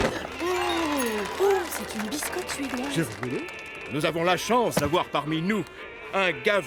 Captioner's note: applause